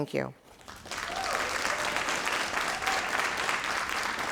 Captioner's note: crowd applauding